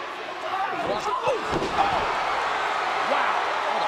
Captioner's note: crowd cheering